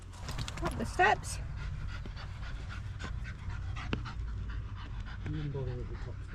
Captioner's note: panting